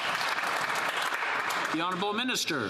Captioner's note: applause